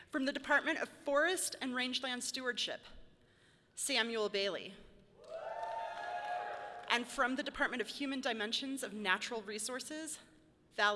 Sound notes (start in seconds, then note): 5.2 audience cheering loudly